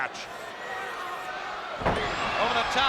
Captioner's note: spectators cheering